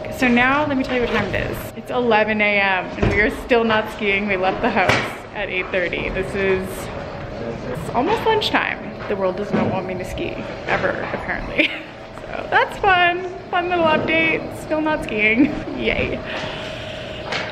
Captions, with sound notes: So now let me tell you what time it is, it's 11:00 a.m. and we are still not skiing. We left the house at 8:30. This is, it's almost lunchtime. The world doesn't want me to ski ever apparently. (laughs) So that's fun, fun little update. Still not skiing, yay.